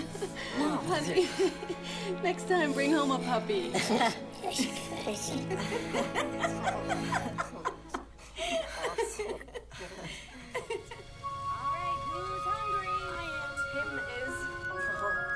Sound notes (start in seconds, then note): 5.5 laughter